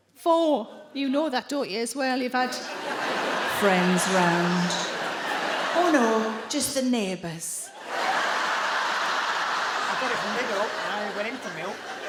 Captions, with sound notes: Four. You know that, don't you as well? You've had... [IN A DEEP VOICE]: "Friends round". Oh, no, just the neighbours. I got it from Lidl and I only went in for milk.